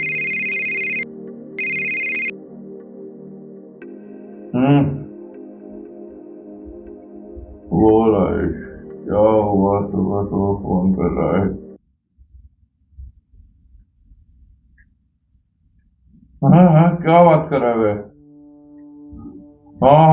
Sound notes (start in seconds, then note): 1.6 phone Picks up; 2.9 talking on phone